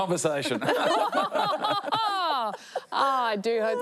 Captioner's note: all laugh